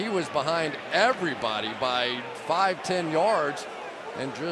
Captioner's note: players shouting